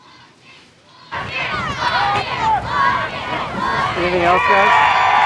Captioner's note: crowd cheering